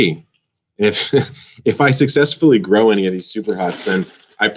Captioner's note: laughs